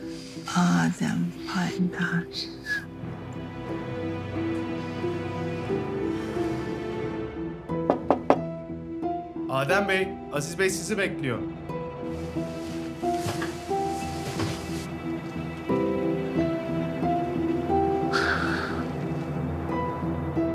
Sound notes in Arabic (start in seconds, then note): 7.8 طرق الباب; 14.7 يستمر الإثارة